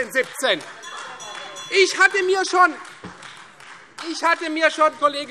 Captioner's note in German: Beifall Freie Demokraten - Zurufe - Glockenzeichen